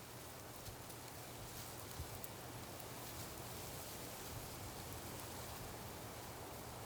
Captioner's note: grasses vibrating together